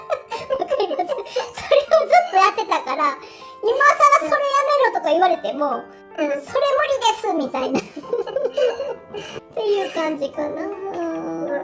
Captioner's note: laughs